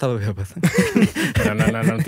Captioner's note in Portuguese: risos